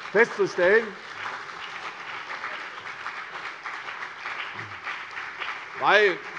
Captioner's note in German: Beifall CDU und BÜNDNIS 90/DIE GRÜNEN